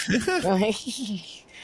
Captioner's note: laughter